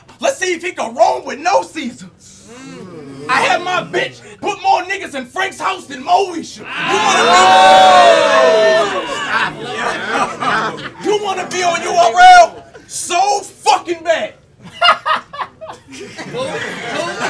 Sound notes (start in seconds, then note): 6.6 audience yells; 14.6 laughs; 17.1 audience chuckles